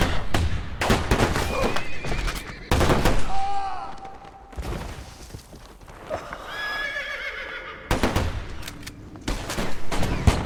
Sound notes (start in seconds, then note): 7.9 gunshots